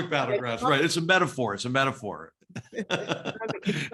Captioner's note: laugh